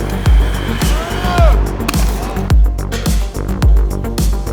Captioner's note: yells